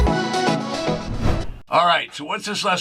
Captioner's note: wind whooshing